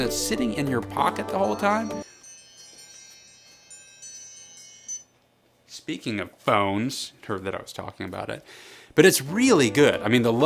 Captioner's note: ring ring ring